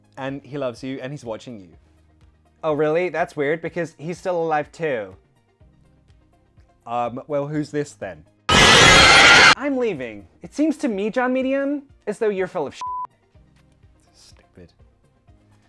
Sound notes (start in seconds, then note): 8.5 inhuman creature screeching; 13.7 beep